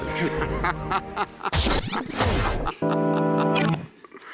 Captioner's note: laughs